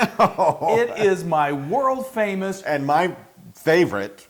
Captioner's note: laugh